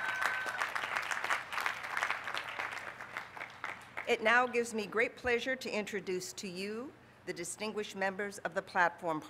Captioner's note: applause